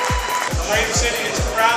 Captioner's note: applause